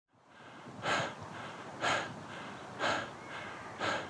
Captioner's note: heavy breathing